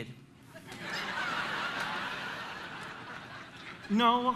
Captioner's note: audience laughing